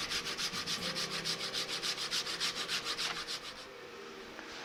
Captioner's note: wood sanding